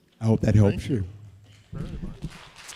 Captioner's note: applause